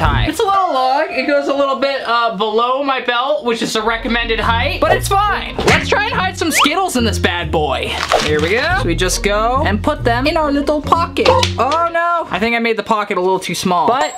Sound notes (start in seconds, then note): none